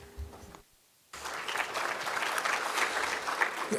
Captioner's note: applause